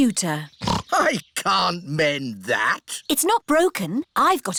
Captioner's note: snorts